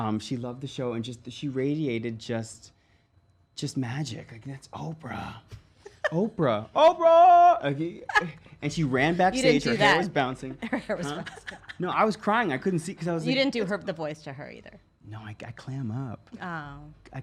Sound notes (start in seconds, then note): 6.5 yelling; 10.5 laughs